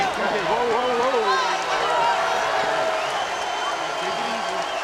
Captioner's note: crowd cheering